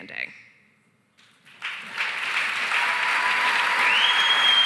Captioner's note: cheering, applause